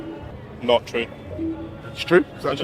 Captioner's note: scoreboard beeps